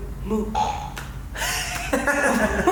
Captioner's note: fart